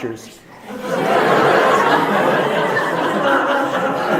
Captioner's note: audience laughs